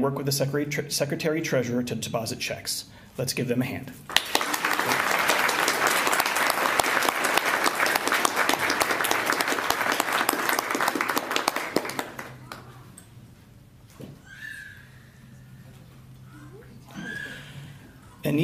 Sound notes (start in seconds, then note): 4.0 applause